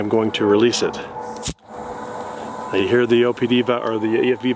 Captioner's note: gas hissing